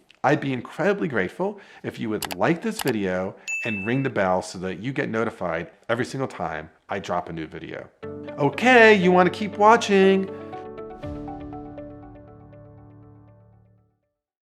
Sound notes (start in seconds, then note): 2.7 mouse clicking; 3.4 bell ringing; 11.3 lively music